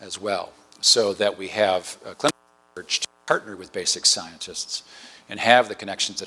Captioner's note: distortion